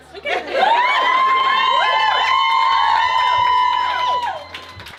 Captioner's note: cheering, applause